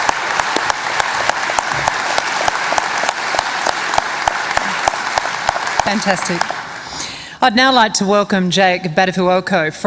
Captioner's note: applause